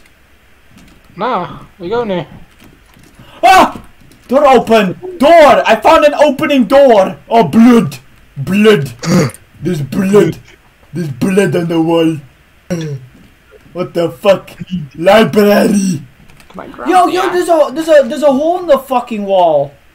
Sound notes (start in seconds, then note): 2.3 door opens; 3.3 screams; 9.0 yawns